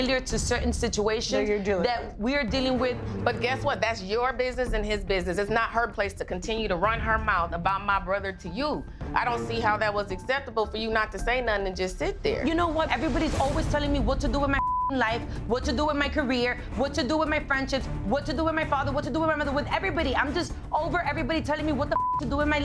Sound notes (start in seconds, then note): 14.4 beep; 21.8 beep